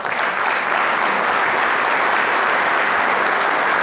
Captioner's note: applause